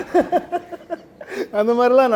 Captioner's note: laughs